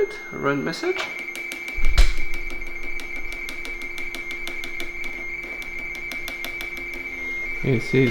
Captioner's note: RTTY Baudot tones